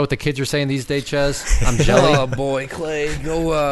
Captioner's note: laughing